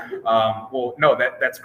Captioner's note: laughing